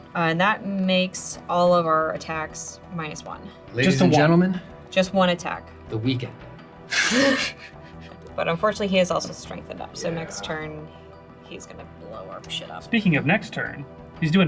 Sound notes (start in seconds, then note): 6.9 all laugh